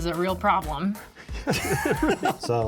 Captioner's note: all laugh